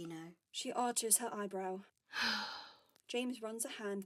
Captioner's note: James sighs